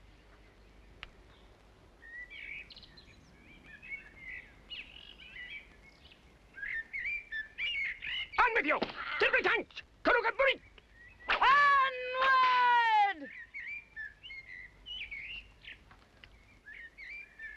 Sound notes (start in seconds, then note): 2.1 birds chirping; 8.8 speaking strange language